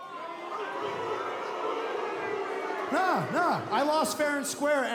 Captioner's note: cheers & boos